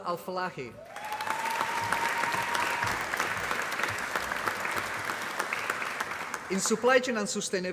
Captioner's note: applause